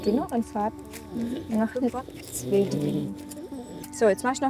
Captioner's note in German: Das Pferd schnarcht